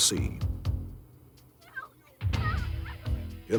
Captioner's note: girl yelling